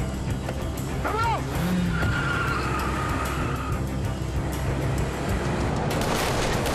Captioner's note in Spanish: Chirrido de llantas; Disparos